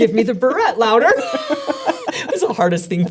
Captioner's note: both laughing